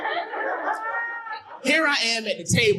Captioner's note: audience laughing